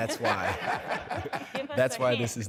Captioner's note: laughter